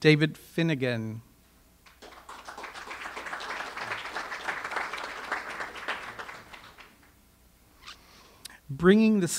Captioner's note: audience applause